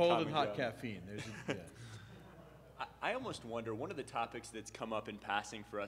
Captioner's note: laughs